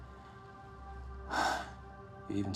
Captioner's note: sighs